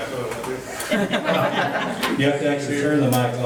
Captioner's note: laughing